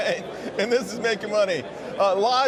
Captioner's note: laughter